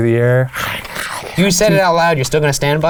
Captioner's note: snarls